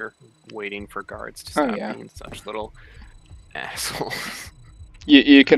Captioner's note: laughs